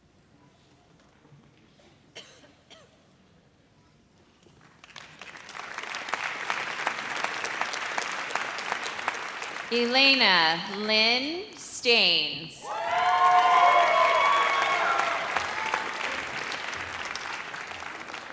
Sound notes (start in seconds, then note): 4.8 audience applauds; 12.6 audience cheers